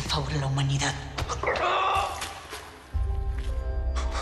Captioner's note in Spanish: Quejido